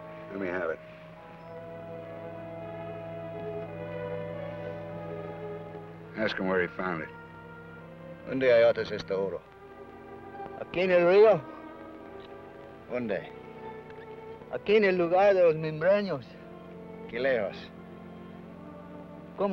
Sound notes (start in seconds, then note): 8.2 Ben speaks foreign language; 12.9 Ben speaks foreign language; 17.1 Ben speaks foreign language